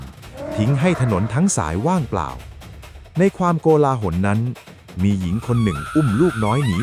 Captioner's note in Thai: เสียงกรีดร้อง